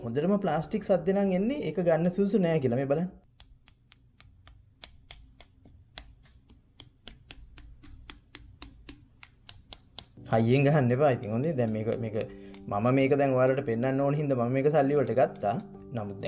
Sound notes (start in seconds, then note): 3.3 keeps tapping